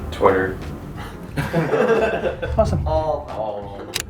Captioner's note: laughs